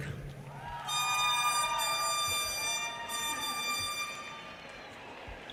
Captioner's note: audience cheers and applause